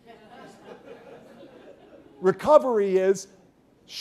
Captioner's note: laughter